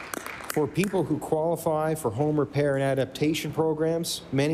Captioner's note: applause